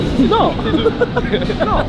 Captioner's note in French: rire